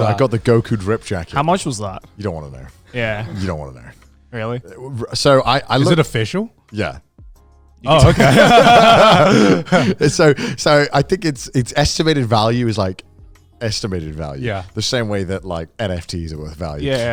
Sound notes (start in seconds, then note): 7.8 all laughing